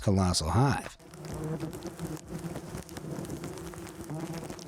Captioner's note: bees buzzing